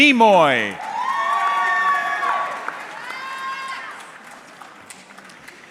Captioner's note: audience cheering